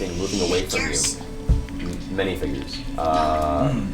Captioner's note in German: flüstert